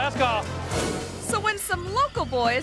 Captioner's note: image whooshes